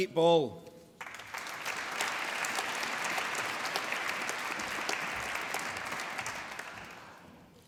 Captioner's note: applause